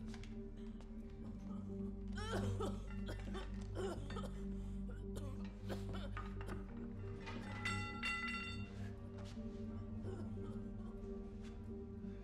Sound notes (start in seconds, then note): 2.1 coughing